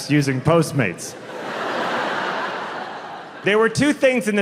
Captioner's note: audience laughing